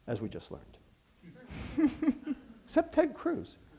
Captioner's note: laughter